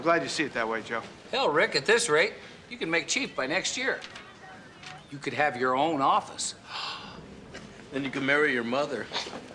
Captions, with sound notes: Yeah, I'm glad you see it that way, Joe. Hell, Rick, at this rate, you could make chief by next year. You could have your own office. (gasps) Then, you could marry your mother.